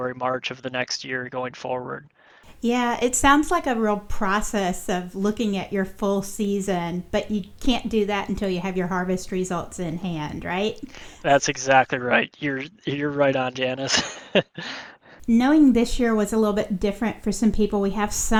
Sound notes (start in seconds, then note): 13.6 laughs